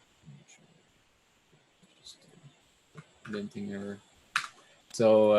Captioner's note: mumbling to himself